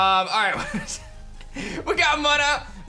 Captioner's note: chuckles